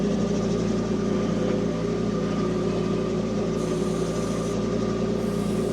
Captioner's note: engine humming continues